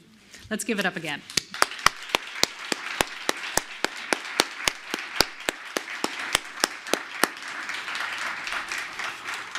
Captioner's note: applause